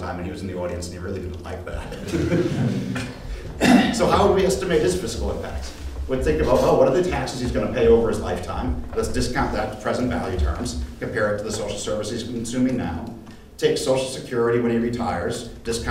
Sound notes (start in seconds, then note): 1.8 audience laughs